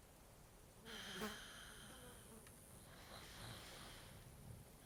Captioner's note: fly buzzing